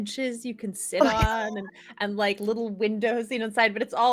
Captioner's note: laughing